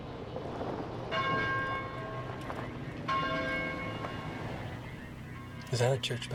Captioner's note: church bell ringing